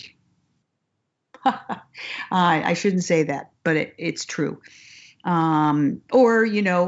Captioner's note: laughs